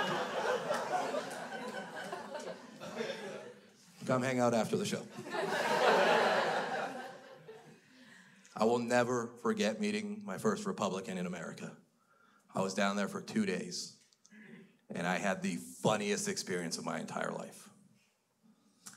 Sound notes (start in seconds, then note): 0.0 crowd laughs; 5.1 crowd laughs